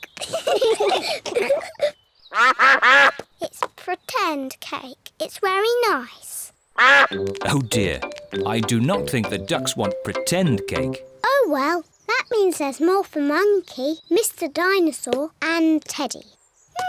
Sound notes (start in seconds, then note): 0.3 all giggle; 2.3 quacking